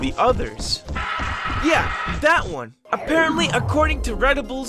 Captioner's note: scream